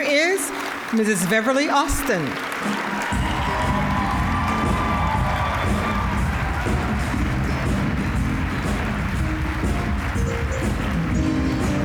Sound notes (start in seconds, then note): 3.0 upbeat jazz music; 3.2 cheering, applause; 7.7 applause; 7.7 upbeat jazz music